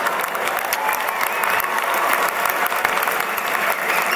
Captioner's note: applause